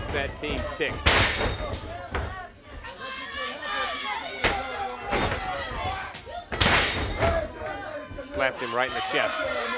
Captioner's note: crowd chatter